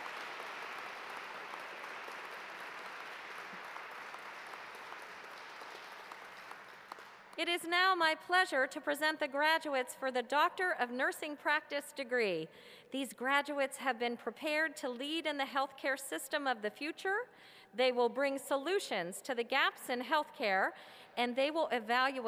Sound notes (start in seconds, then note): 0.0 cheers and applause